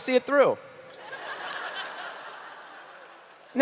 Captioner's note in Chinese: 笑聲